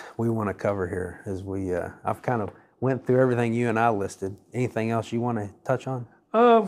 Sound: none

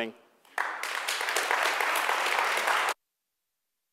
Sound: audience clapping

